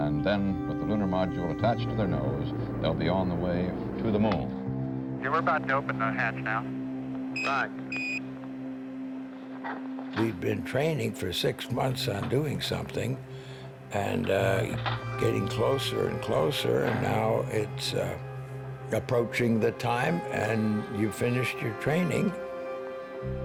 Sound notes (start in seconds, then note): 7.3 beeping